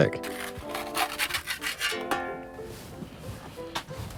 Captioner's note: scraping